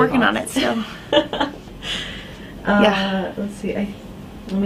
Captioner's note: laughing